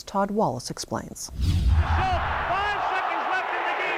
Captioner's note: cheering